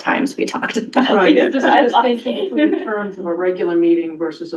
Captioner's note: laughter